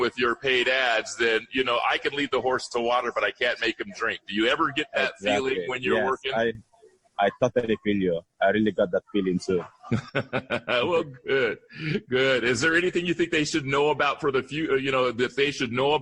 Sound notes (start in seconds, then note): 9.7 laughter